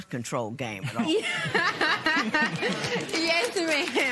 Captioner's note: laughter